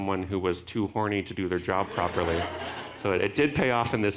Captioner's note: audience laughing